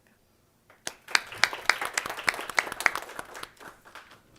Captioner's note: audience claps